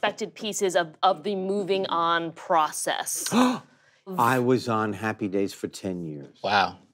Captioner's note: gasps